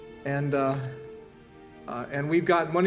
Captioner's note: camera clicks